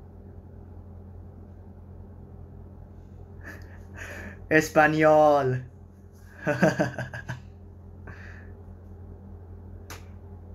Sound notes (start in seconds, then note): 4.6 Spanish